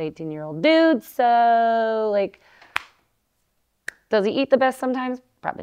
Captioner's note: claps